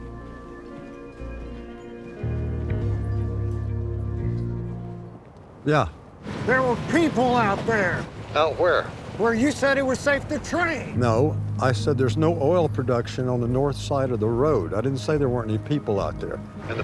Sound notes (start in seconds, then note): 0.0 tense music; 8.2 on phone